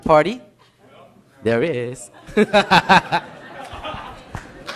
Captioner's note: laughs